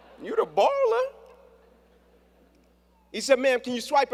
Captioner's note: laughter